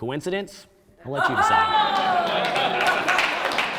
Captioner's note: audience exclaiming; audience applauding